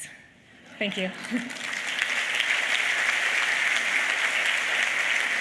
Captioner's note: applause